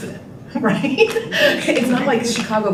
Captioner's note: laughing